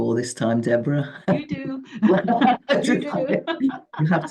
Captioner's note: giggling